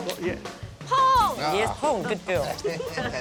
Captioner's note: speaks chinese; laughter